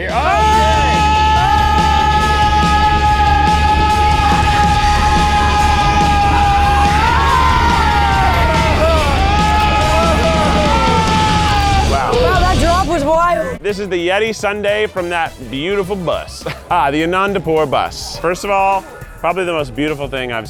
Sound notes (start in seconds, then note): 2.1 rock music continues; 2.1 screaming; 12.3 rock music fades; 14.4 lively band music